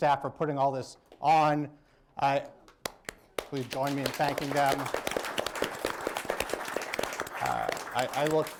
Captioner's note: applause